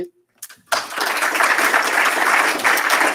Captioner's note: applause